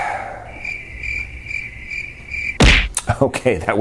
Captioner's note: crickets chirping